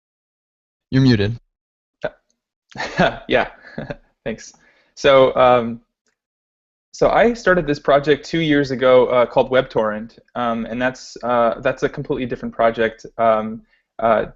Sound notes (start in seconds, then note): 2.7 chuckles